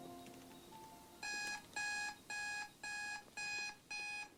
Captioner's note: computer alarm